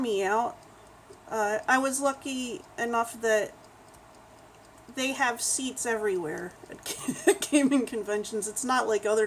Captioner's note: laughs